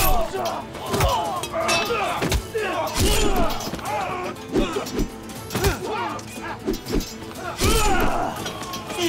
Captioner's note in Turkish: Dövüş sesleri